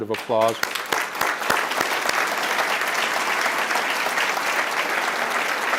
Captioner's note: applause